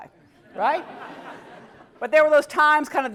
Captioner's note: laugh